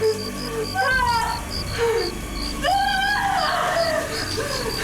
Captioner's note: shouting and chirping